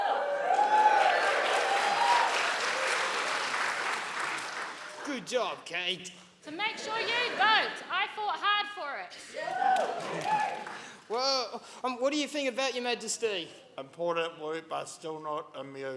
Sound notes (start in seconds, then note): 0.0 audience cheering; 9.3 audience cheering